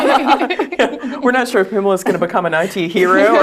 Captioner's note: laugh